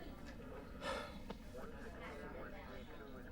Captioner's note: sighs